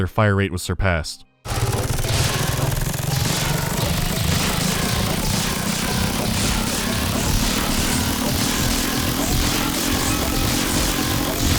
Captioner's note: steadily rising rate of fire